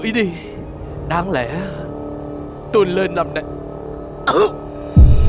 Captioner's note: cough